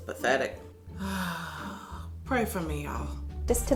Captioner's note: sighs